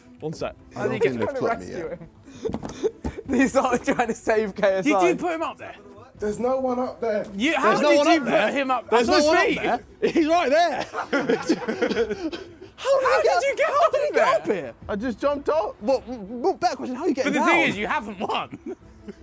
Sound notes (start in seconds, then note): 10.0 laughs